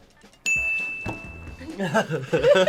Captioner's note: upbeat music; bell dings; both laughs